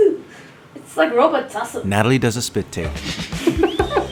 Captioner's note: laughter from the crew